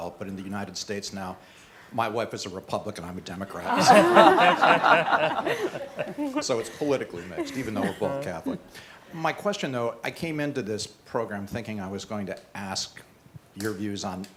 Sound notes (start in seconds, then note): 3.6 laughing